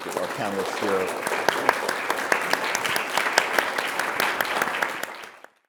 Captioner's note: audience applauding